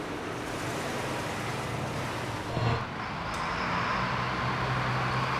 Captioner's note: vehicle accelerating